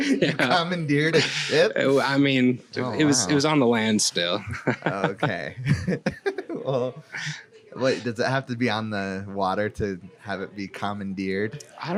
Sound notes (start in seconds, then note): 0.0 laughing; 4.3 laughs